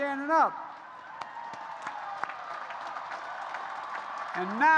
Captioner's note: applause